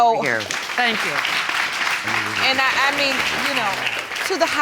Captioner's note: audience applauding